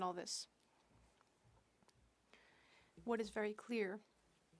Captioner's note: speaking French